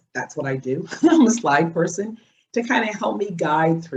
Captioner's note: laughs